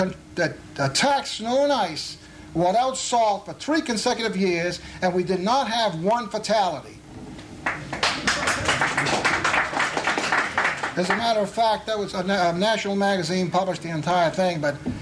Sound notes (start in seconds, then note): 10.3 applause